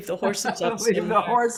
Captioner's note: laughing